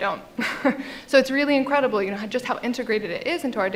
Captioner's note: laughs